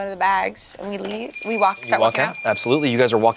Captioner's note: bells ringing